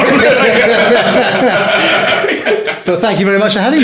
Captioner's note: laughing